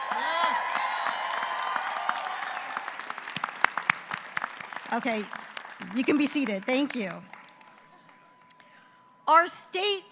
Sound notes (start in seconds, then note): 2.3 applause